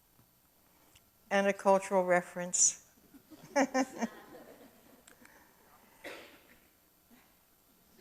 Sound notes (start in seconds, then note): 3.1 chuckles; 3.2 audience chuckles